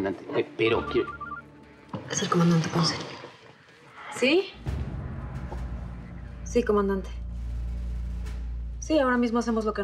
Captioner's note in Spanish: suena un teléfono